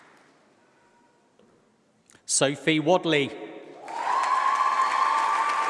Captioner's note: applause